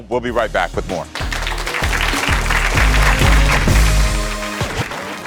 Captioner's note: audience applauds